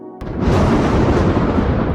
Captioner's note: thunder